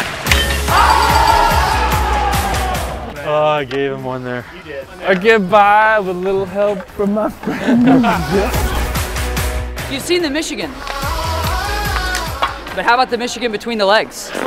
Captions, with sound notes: [CHIME DINGS] [CHEERING] Oh, I gave him one there. You did. I get by with a little help from my friends. You've seen the Michigan. But how about the Michigan Between the Legs?